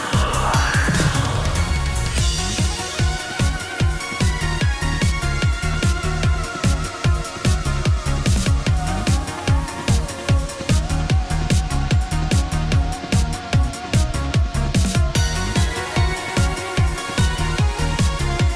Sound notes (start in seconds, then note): 0.0 Sculk Shrieker goes off